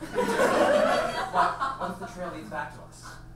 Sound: audience laughs

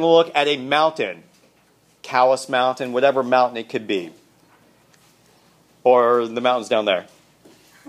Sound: laughter

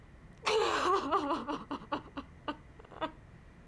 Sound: loud sobbing

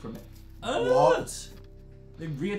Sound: disgusted noises

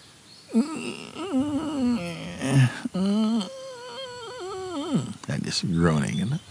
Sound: makes squeaking sounds

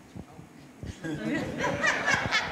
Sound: laughter

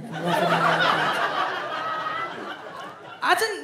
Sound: audience laughs

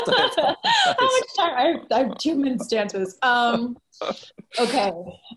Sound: laughing

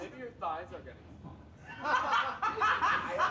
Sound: chuckles

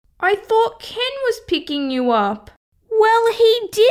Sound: none

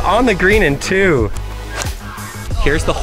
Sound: club pops

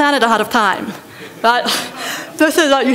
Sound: laughter

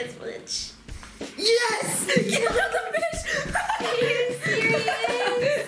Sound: hysterically laughing

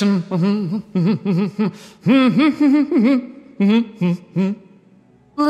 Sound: hum

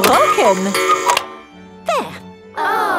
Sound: cuckoo clock

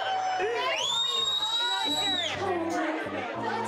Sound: cheering, whistling

